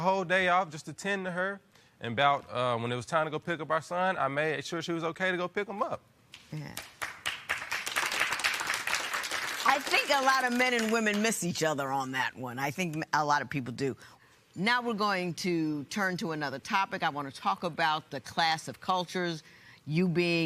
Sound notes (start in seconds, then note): 6.7 applause